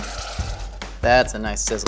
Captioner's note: sauce sizzling